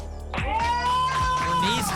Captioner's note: applause and cheering